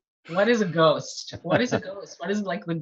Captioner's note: laughs